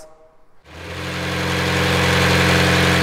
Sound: engine sound

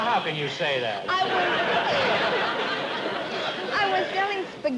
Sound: laughter

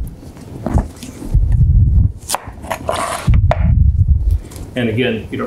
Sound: knife cutting

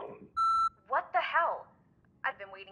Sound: beeping

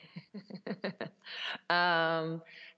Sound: laughter

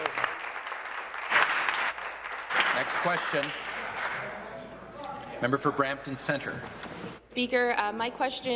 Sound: applause

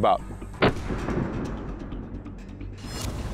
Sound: muffled gunshot; whoosh

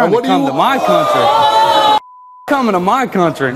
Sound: audience boos

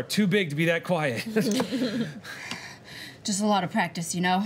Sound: laughing

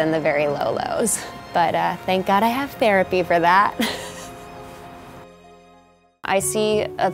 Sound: laughs

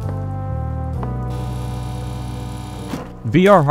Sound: A security camera buzzes, a door can be heard opening

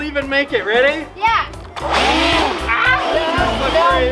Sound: engine revving; gasps; group laughs

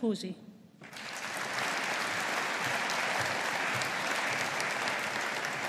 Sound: audience applauding

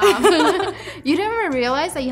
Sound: laughing

